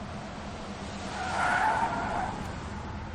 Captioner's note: tire screeching